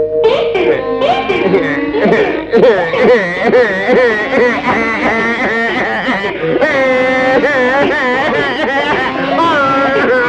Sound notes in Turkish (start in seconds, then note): 1.0 Hıçkırıklar